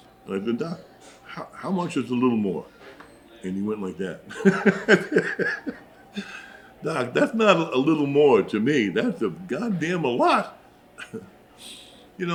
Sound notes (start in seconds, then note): 4.2 laughs